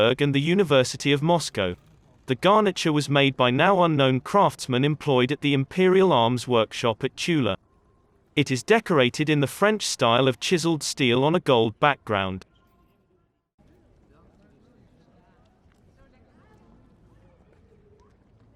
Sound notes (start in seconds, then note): 12.9 people chattering